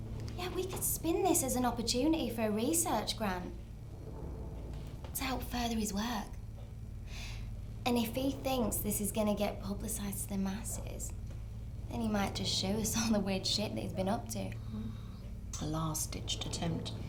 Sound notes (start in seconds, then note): none